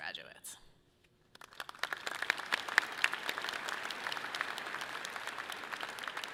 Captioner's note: audience clapping loudly